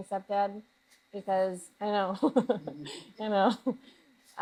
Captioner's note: laughs